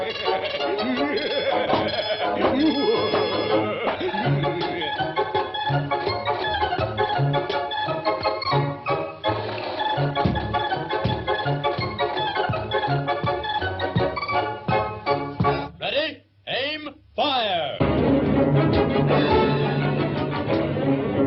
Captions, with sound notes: (Pin Cushion Man cackling) (balloons popping) (upbeat music continues) (buckets thudding) Ready, aim, fire! (dramatic music)